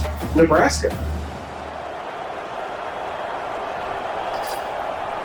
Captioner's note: crowd Noises